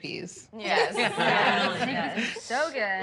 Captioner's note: laughter